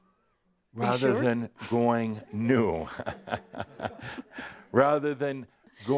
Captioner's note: some giggles